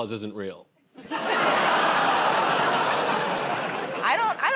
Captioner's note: laughter